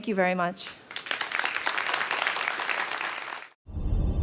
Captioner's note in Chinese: 掌聲